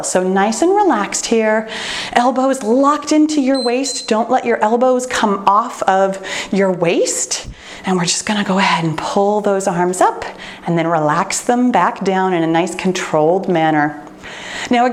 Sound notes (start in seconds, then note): 3.5 timer beeps